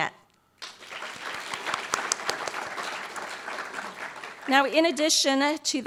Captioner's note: applause